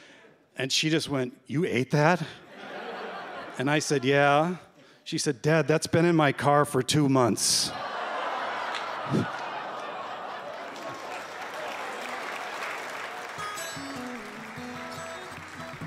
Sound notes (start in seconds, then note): 8.7 groans, laughter; 10.9 applause; 13.3 acoustic guitar